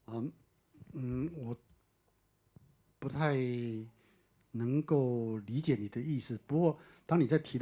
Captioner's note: Mandarin